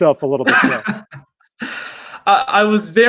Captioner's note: chuckles